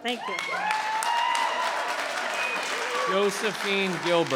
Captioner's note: cheering and applauding